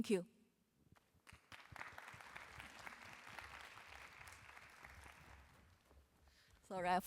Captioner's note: applause